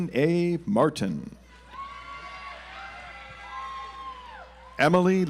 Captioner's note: audience applauds